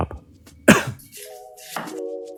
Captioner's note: cough